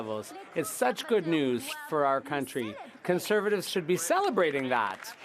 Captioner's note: some Applause